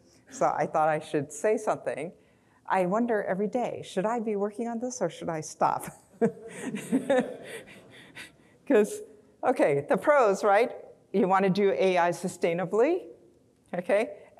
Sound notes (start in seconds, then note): 6.2 chuckles; 7.2 audience laughing